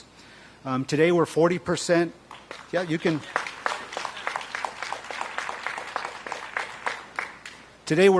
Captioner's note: applause